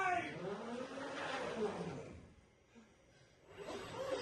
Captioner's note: robotic whirring